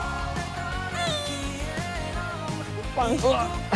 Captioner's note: sigh